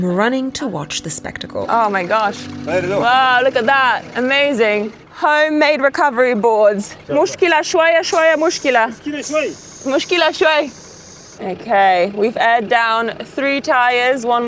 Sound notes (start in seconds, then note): 3.1 speaks in foreign language; 6.9 both speaks in foreign language